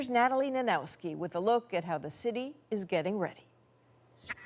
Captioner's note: none